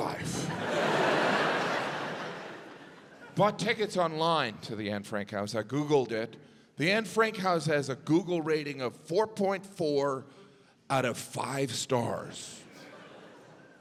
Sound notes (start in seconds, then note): 2.2 audience laughs